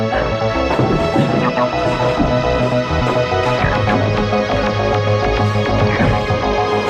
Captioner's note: ominous sci-fi music; gasping